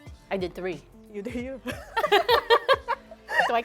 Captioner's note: laughter